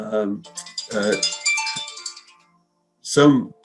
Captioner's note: timer rings melodically